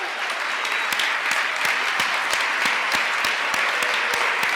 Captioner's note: applause